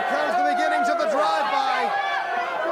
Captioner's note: crowd chatter